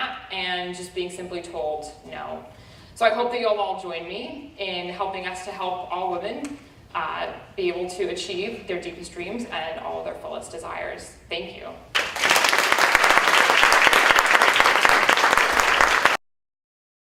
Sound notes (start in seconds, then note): 11.9 applause